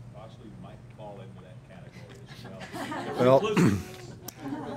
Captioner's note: laughing